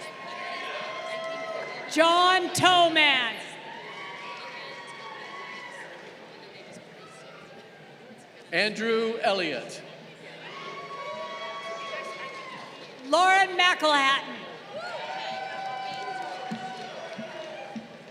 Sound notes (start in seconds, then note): 0.0 crowd cheering; 10.2 crowd cheering